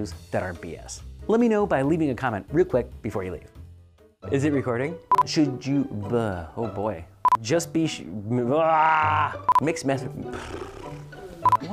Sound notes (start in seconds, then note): 5.1 beep; 8.4 argh; 10.2 gasping